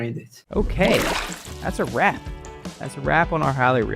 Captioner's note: water splashing